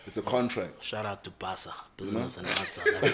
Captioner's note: everybody laughs